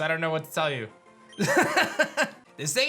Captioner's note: laughs